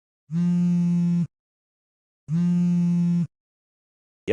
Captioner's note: phone buzzing